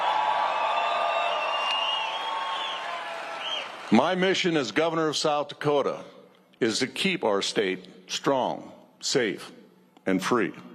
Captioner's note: cheers and applause